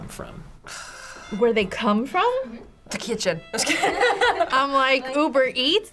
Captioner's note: sighs; laughs